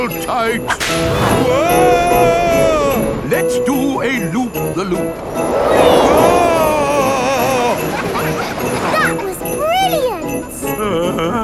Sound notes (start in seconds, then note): 7.1 screaming; 8.2 children laughing